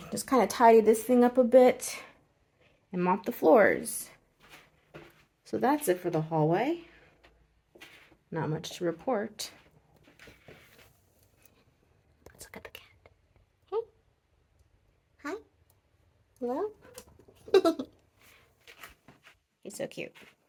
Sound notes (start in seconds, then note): 11.7 whispers; 17.4 giggles